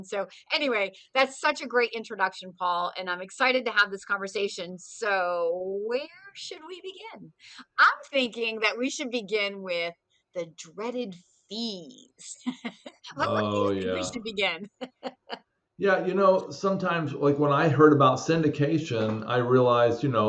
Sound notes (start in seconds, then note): 12.4 laughs